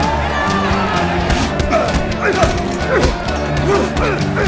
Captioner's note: grunting continues